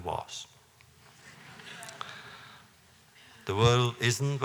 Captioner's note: laughter